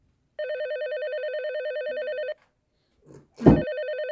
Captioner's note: phone rings